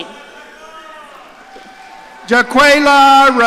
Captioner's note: audience cheering